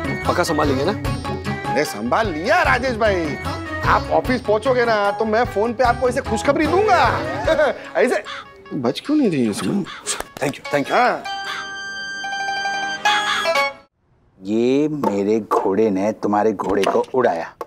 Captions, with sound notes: You sure you can ? Consider it done, Rajesh ! When you get to the office, I will give you the good news. [laughs] In the snap... - Why can't I snap ? - Okay. - Thank you. - Welcome. [comical music playing] My knight captures your knight !